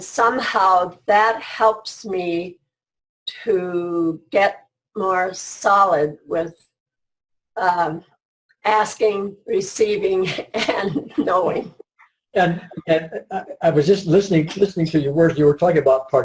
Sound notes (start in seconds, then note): 12.4 laughs